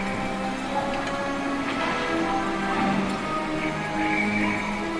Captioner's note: various jungle sounds, too